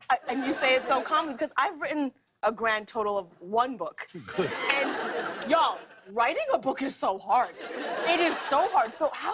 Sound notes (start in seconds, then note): 7.4 laughter